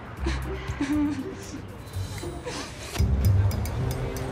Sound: crying

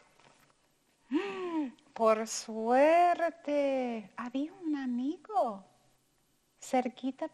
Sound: gasps; speaking in foreign language

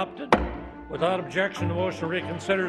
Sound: gavel thuds

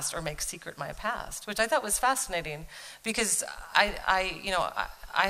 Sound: none

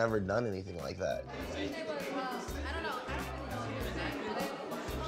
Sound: youth chatting

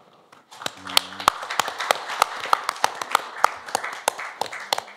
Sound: applause

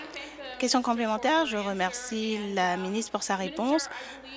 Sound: applause

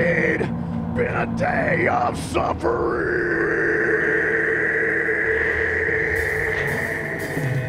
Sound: hellish growled echoes

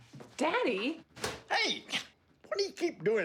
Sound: slap

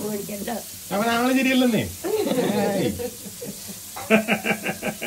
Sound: laughs

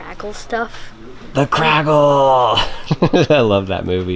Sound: laughs

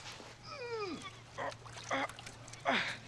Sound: <i> grunting</i>

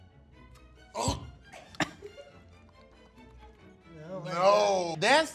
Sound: retches

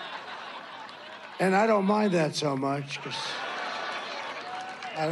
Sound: laughter

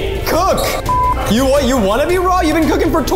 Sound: beep

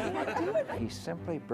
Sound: laughter

